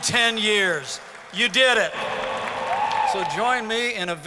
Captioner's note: audience clapping